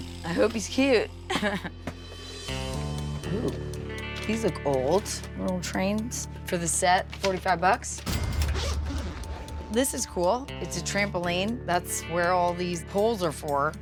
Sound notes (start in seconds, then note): 1.3 chuckles; 8.1 cash register dings